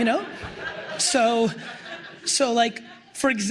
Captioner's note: crowd laughs